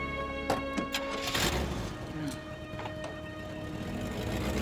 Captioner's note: engine revving